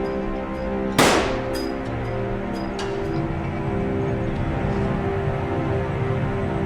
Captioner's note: gunshot blasting; tense music